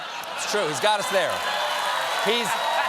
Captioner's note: cheers and applause